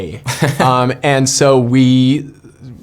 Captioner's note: laughing